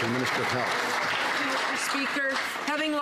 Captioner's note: some Applause